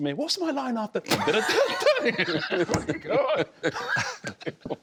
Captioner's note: laughter